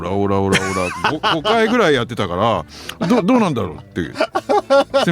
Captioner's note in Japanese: 笑い